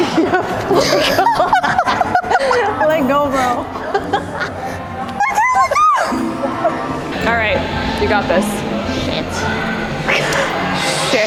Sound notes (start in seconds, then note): 0.0 laughing; 5.2 squealing; 10.2 laughing